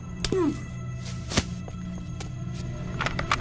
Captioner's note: sounds of grunts as men fall